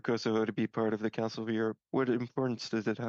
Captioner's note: speaking French